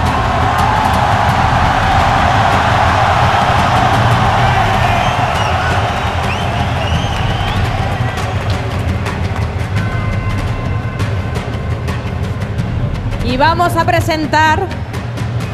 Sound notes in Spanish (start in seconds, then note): 0.1 Ovación; 8.8 Bullicio